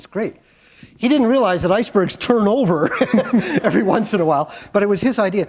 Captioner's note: chuckle